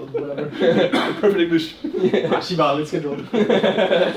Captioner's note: laughs